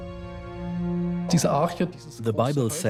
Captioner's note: in German; dubbed in English